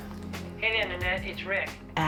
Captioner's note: on phone